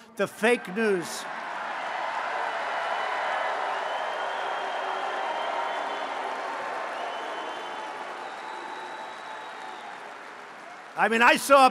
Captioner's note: applause